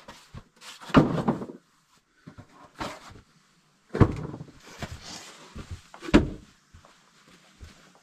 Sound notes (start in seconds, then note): 1.1 buckets clattering